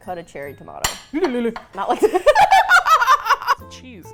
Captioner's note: knife scrapes on plate; both laugh